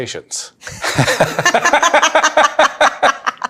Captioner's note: laughs